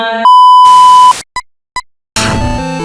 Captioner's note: SFX: beeping